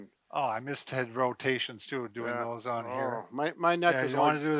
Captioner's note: mumbles